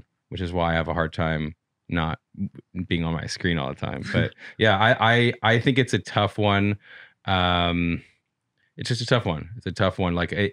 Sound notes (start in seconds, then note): 3.9 chuckles